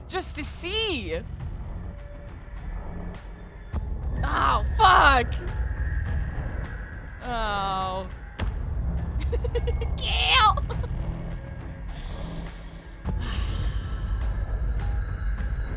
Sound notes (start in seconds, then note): 1.8 music intensifies; 9.2 chuckles; 11.9 deep breath